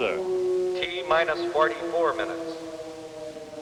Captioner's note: man on PA